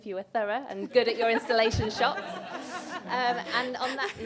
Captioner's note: laughter